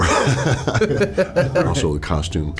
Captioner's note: both laughing